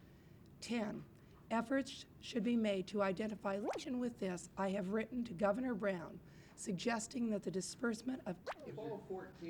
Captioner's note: camera noise